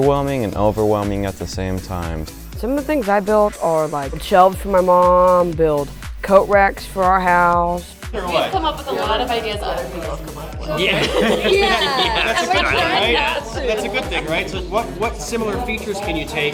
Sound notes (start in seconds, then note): 11.9 group laughing